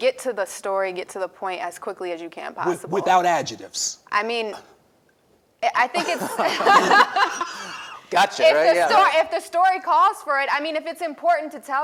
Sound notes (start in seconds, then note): 6.0 laughs